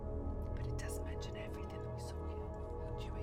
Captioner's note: whispering